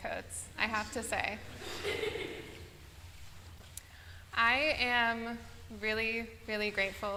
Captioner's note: laughter